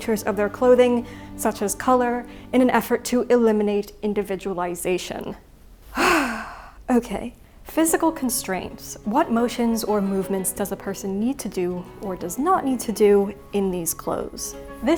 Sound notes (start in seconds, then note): 5.9 deep sigh